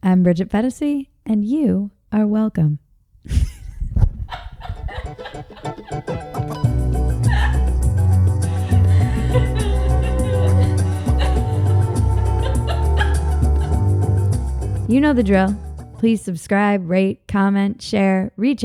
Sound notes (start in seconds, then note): 3.4 laughing; 5.3 bright music